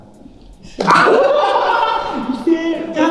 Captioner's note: everyone laughs